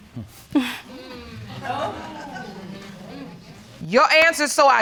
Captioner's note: scoffs; audience exclaiming